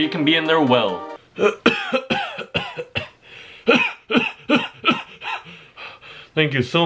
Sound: coughs

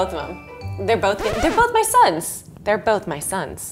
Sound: record scratching

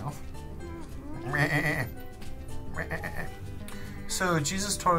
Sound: imitates sheep

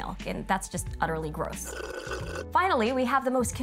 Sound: person slurping

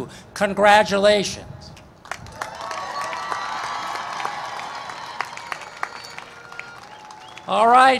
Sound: cheering and Applause

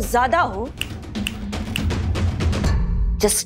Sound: snapping fingers

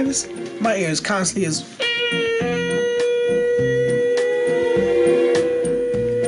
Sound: mimics ringing in ears

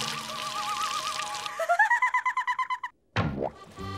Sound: laughing

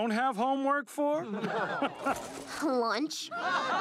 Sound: man laughs; canned laughter

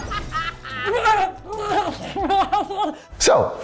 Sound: cackling noises

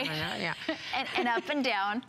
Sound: laughter

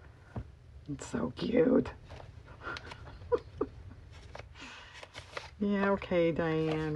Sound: laughs

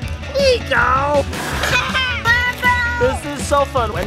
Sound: laughs

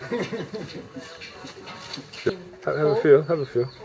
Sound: laughter

